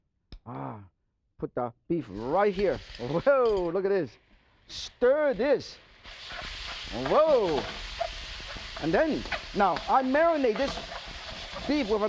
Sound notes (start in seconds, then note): 3.7 beef sizzling; 7.0 sizzling